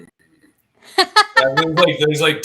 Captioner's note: laughter